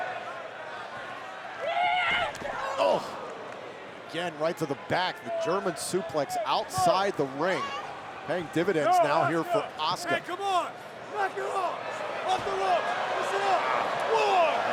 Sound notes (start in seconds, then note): 1.9 Asuka shouting